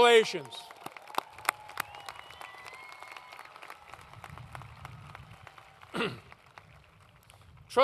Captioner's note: applause